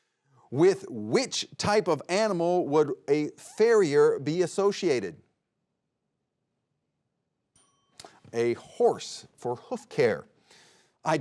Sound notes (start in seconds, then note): 7.5 bell dings